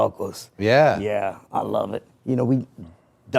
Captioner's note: Rey speaking in foreign language